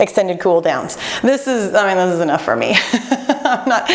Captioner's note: laughs